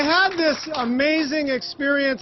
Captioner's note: applause